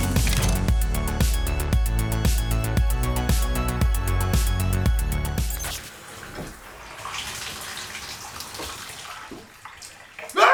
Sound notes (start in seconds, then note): 0.0 upbeat music; 5.7 water splashing